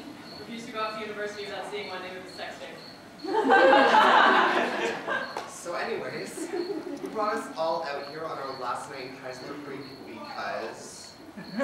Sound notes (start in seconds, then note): 3.2 audience laughter